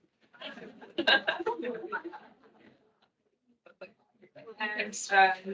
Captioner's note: attendees laughing